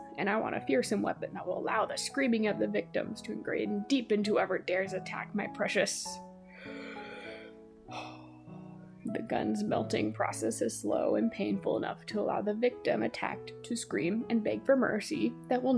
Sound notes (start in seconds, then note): 6.4 deep breath